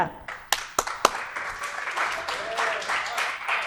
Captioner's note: applause